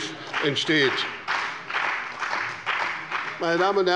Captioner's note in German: Beifall bei dem BÜNDNIS 90/DIE GRÜNEN und der CDU